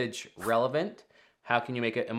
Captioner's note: screen whooshing